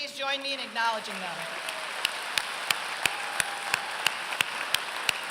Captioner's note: applause